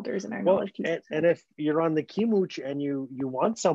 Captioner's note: speaking Indigenous language